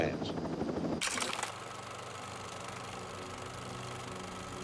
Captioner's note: projector whirring